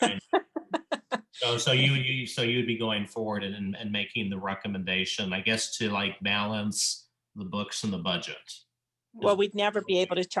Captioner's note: chuckles